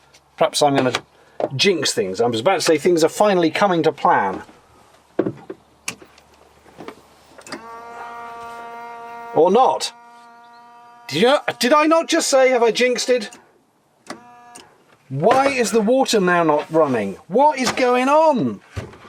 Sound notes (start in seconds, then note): 4.7 ominous pause; 7.4 sound of pump not pumping any water